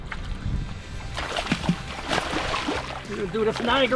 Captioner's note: fish fluttering